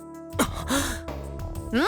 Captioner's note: gasp